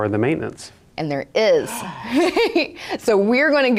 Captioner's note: laughs